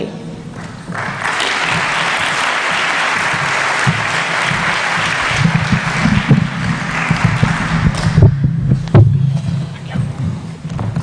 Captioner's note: applause